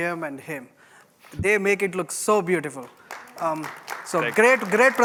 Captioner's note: applause